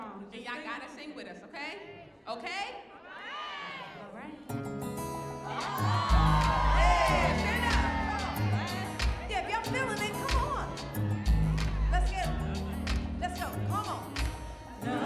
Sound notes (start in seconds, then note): 3.1 audience cheering; 5.5 audience cheering